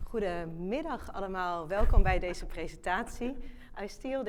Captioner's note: speaking in foreign language